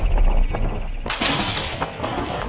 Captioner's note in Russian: выстрел